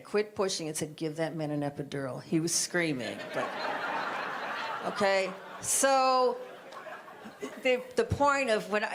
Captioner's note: audience laughter